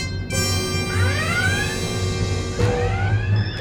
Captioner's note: red alert klaxon